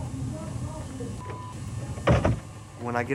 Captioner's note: door opens and closes